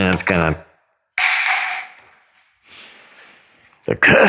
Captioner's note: roller clatters to ground lustfully